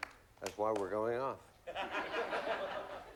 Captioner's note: laughs